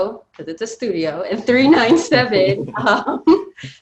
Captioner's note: both laughing